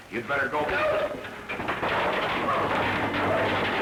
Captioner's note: crash